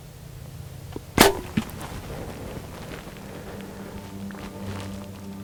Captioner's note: bowstring twangs